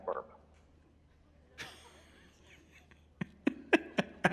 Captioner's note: laughs